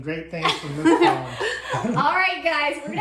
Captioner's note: group giggling